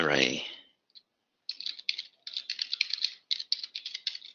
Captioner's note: typing